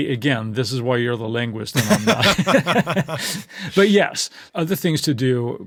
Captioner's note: laughter